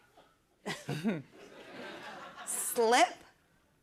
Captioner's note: chuckles